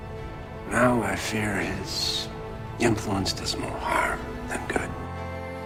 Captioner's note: voiceover